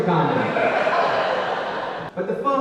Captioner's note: audience laughing